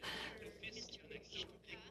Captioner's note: speaking in French